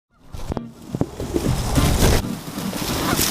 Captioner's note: rustling